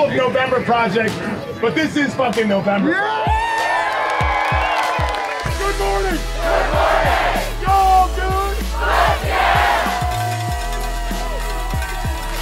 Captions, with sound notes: "This is not all of November Project, but this IS November Project!" [cheering & clapping] "Good Morning! GOOD MORNING!" "Yal GOOD!?!? FUCKYEAH!"